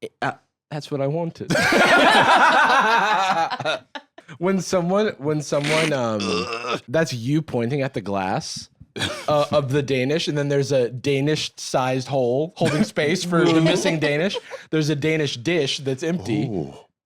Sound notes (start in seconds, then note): 1.5 all laughing; 6.0 strains